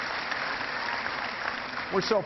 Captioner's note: cheering